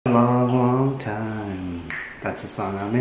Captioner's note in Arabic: تقرقع الأصابع